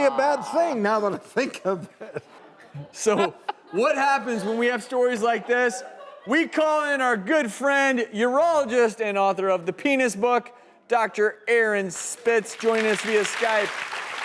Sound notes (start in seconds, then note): 1.9 laughing